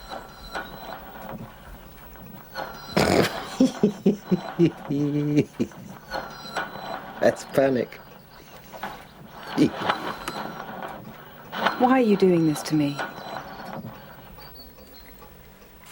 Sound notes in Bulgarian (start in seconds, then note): 2.9 пръхтене от смях